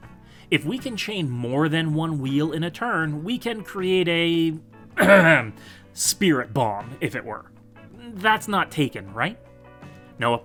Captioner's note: ahem